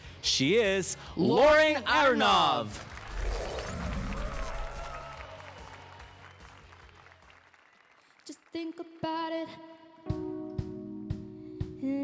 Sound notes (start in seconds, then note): 2.3 applause and cheers